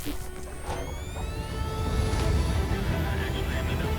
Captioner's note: plane engine whirring